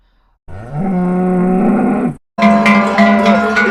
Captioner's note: cow moo-ing